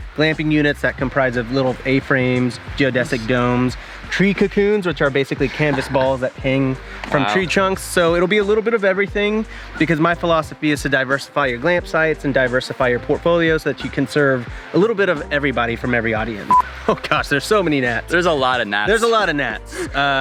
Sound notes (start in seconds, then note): 16.4 marker beep